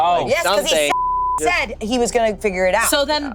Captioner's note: beep